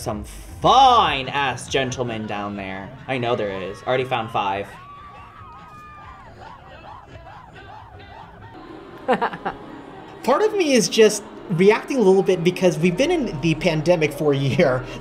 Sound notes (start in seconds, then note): 0.0 music thumping; 4.8 people cheering; 9.0 laughs